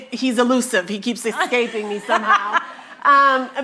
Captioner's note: laughing